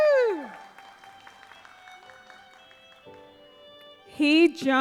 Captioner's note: audience applauds